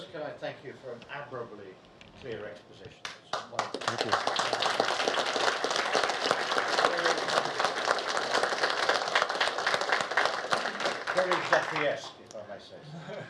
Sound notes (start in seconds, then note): 4.9 audience applauds